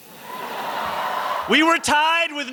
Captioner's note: cheering